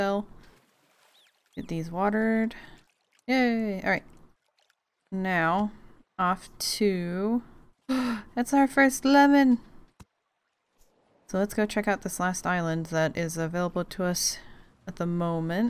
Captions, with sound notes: Get these watered. Yay all right! Now off to... *Gasp* that's our first lemon! So let's go check out this last island that is available to us at the moment.